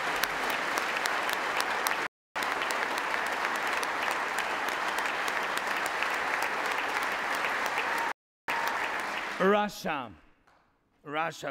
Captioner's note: applause